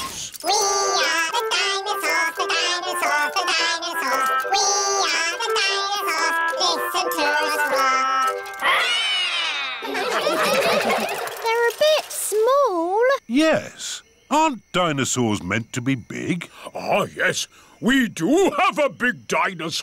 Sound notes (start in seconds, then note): 8.6 all roar; 9.6 all laughing